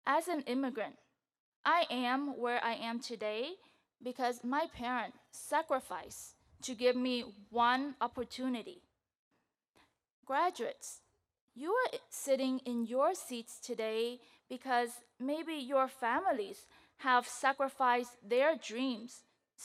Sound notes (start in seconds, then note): none